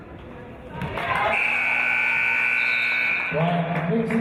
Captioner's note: applause and cheers; buzzer